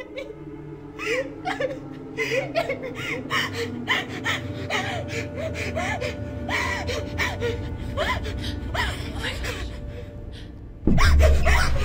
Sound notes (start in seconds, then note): 3.3 rapid shallow breaths